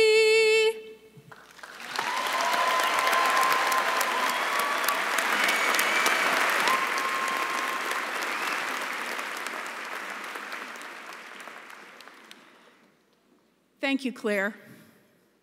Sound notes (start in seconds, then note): 1.4 cheering and applause